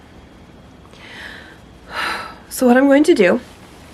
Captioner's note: gathering breath